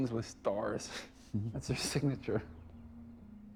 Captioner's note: astonished chuckle